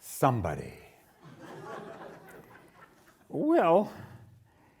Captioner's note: audience laughing